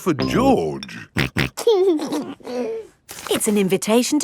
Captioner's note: snorting and giggling